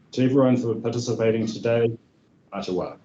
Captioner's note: speaking in Te reo Māori